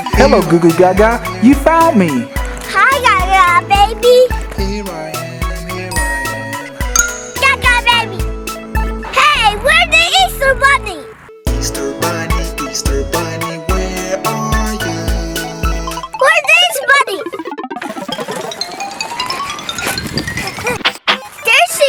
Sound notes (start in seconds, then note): 15.8 cartoony blooping; 18.3 alternating high-pitched piano keys